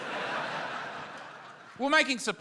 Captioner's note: laughter